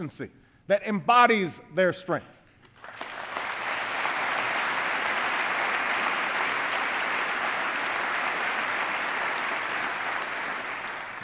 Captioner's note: applause